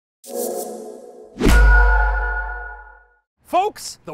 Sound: swooshy shwishy pingy dingy

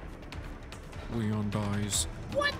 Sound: Spoiler Voice

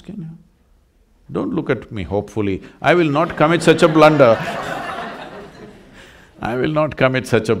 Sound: laughter

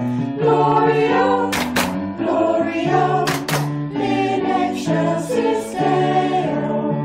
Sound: clap-clap

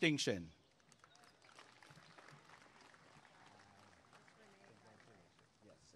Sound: applause and cheering

